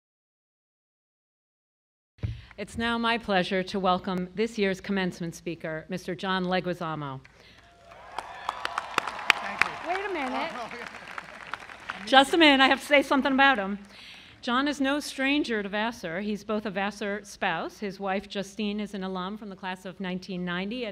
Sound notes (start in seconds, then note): 7.5 crowd clap; 7.5 crowd applause